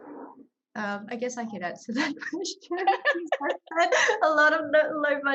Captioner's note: all chuckling